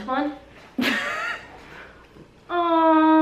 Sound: laughs

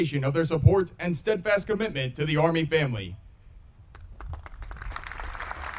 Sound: audience applauding

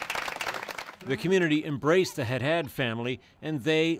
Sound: applause

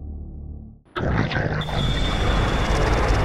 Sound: growl

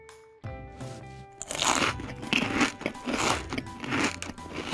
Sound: munching

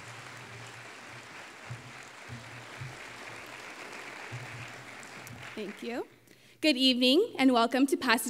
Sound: applause

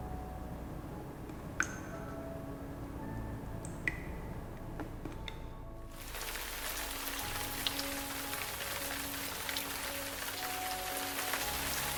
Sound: raining sound

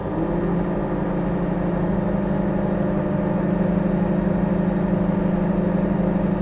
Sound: microwave humming

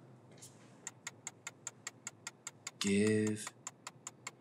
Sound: ticking

